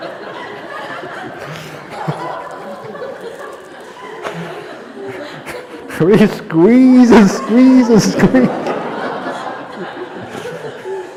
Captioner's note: laughter; laughter